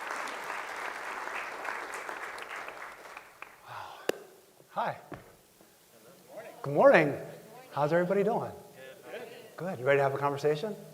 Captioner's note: applause